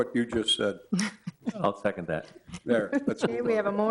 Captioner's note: laugh